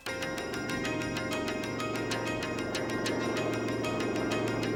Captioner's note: engine whirring